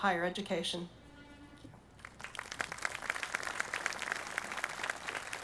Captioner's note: audience applauding